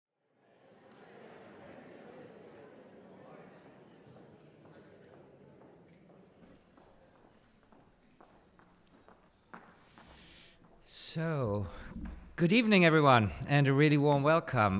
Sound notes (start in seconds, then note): 0.7 audience murmuring; 4.1 footsteps